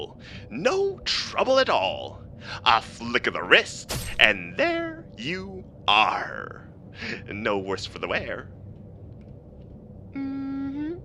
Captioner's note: sfx: slice